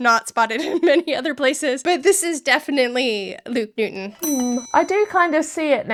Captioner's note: bell ringing